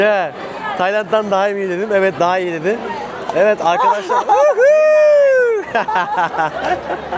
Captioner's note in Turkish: kahkaha